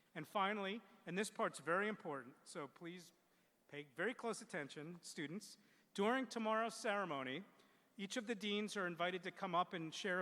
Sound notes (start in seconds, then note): none